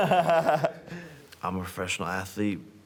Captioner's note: laughs